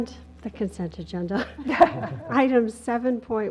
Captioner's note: laugh